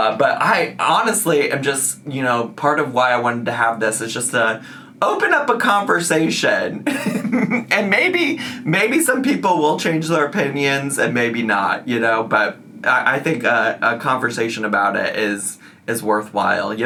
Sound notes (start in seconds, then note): 6.8 laughs